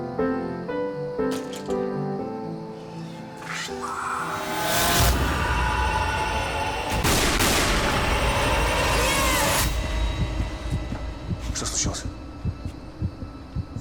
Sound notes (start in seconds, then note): 4.7 eerie music; 6.9 gunshots